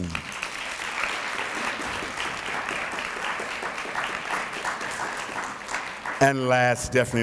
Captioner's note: applause